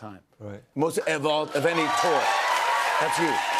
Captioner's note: cheers and applause